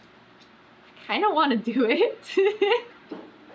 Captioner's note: laughs